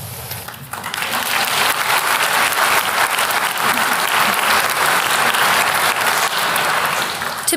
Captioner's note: applause